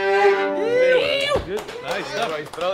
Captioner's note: musicians cheering; audience clapping